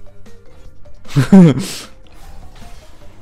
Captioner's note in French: Rire